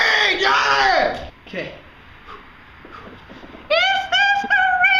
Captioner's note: Alex breathes in anticipation